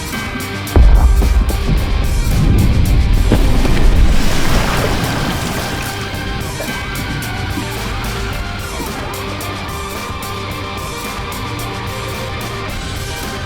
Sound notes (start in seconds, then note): 0.7 air droning; 4.1 intense rock music continues